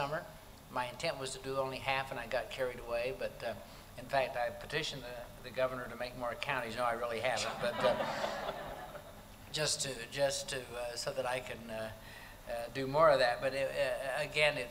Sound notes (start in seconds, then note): 7.4 laughter